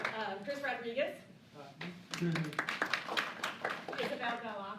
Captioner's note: applause